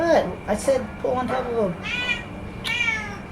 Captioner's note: cat continues too meow loudly; cat meows loudly